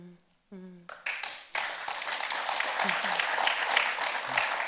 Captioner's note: audience applauds